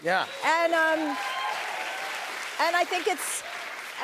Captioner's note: cheers and applause